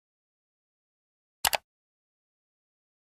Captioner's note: mouse click sound